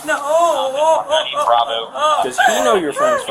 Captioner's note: radio chatter